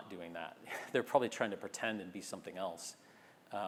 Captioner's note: laugh